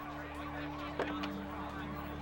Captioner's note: sirens wailing